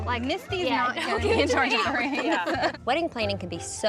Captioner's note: everyone laughs